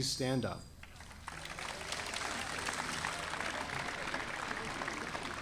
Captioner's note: audience applauding